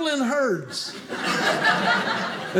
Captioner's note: audience laughing